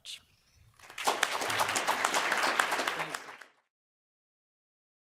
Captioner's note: people clapping